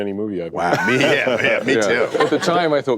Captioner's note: laugher